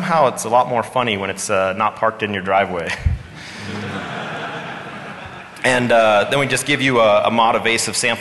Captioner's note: laughter